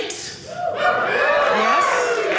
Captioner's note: audience cheering